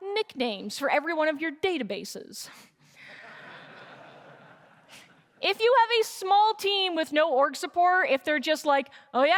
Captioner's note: laughter